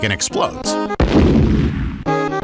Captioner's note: boom!